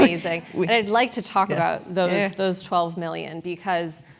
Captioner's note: laugh